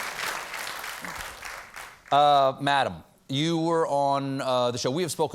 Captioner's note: applause